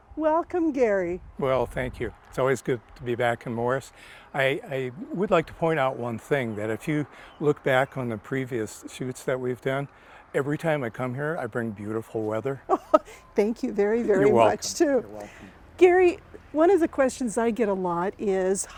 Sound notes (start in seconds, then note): 12.7 laughs